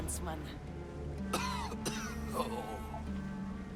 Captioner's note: coughs